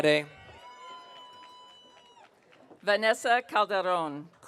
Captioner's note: audience cheering